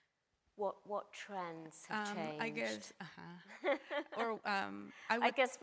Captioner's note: chuckles